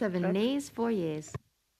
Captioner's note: speaking French